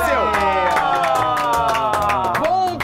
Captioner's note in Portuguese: palmas